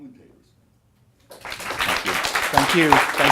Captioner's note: applause